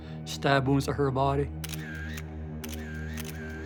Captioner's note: camera clicking